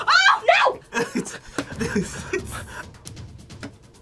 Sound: both laugh

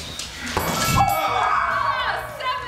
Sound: bell chimes

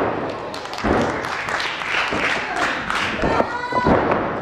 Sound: applause

